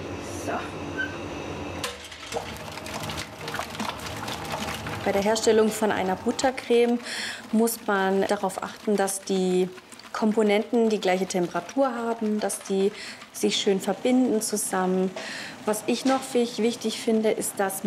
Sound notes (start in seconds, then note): 2.5 splashing